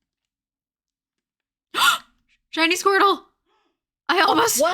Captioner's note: gasps